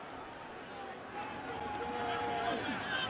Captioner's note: crowd cheering